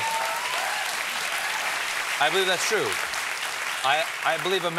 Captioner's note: applause